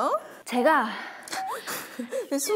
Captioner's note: breathing heavily